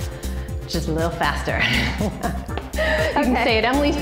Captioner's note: laughing